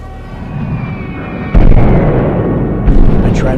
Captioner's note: explosion